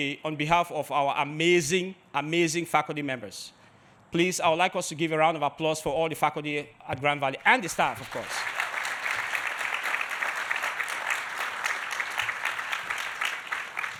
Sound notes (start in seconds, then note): 7.5 audience applauding